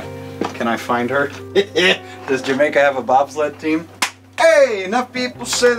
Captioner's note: chuckling; laughs